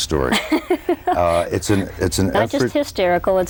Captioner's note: laughs